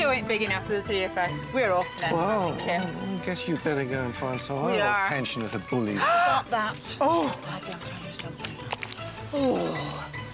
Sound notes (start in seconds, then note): 5.3 gasping; 9.6 scoffing